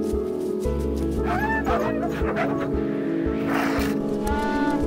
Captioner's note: dogs barking